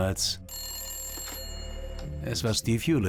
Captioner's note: phone rings